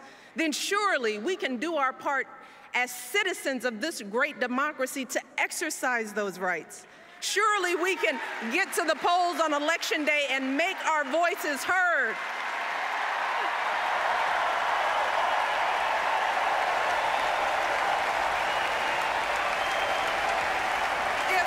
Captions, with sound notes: then surely we can do our part as citizens of this great democracy to exercise those rights. Surely, we can get to the polls on Election Day and make our voices heard. [Applause]